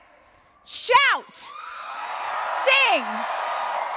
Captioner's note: audience cheers